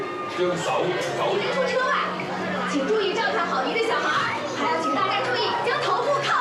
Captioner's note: character voices speaking in Chinese over speakers